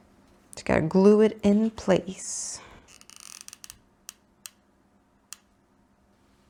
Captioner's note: glue gun creaks